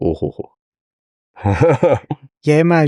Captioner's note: laughs